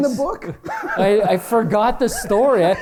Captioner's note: laughter